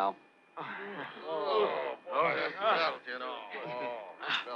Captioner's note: all sighing